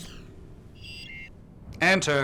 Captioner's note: door Chime